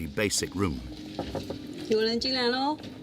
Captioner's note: door knocking; speaking foreign language